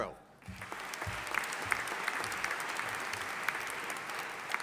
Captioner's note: audience applauding